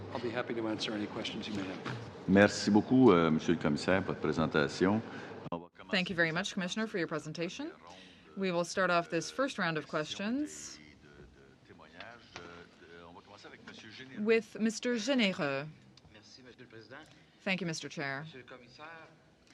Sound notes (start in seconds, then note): 4.6 speaking French